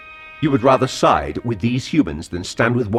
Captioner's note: confused